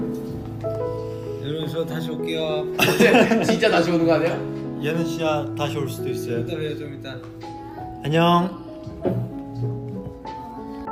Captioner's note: laughs